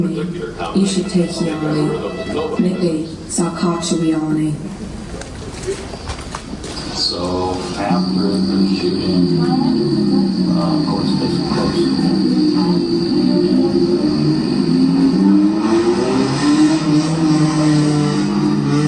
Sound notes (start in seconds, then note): 1.2 female voice speaking in Indigenous Myaamia language; 7.1 male speaker in English; 13.1 loud car engines